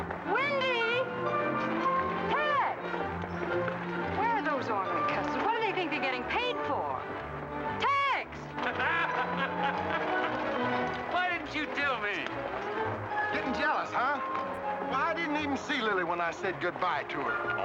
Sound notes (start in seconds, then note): 0.0 upbeat music; 8.5 men laughing